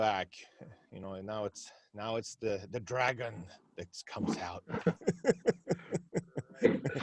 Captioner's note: laughs